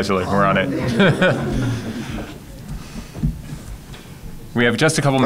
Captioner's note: laughter